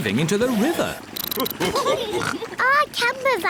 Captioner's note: all laugh